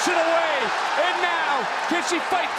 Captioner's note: crowd cheers